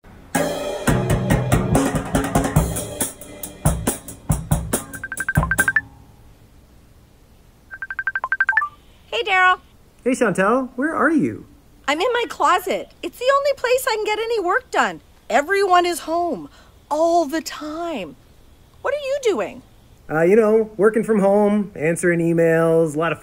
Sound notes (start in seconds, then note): 0.3 drum solo; 4.7 ringtone